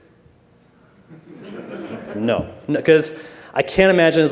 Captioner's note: laughter